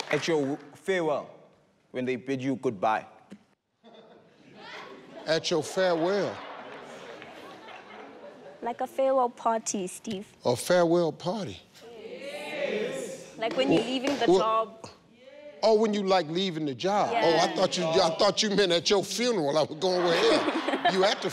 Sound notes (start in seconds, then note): 3.8 audience chuckles